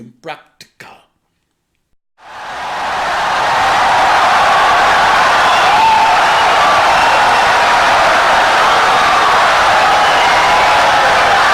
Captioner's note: wild applause and cheering for 17 seconds